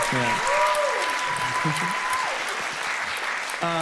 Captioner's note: audience cheers and laughs; chuckles